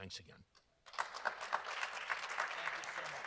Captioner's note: audience applauding